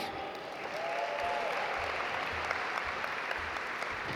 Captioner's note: audience applaud